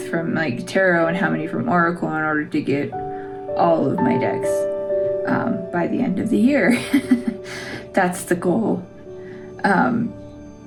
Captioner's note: laugh